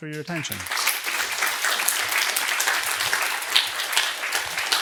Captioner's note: applause